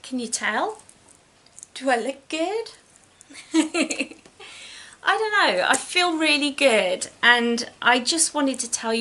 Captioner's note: laughs